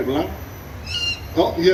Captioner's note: owl squawks in agreement LOL😂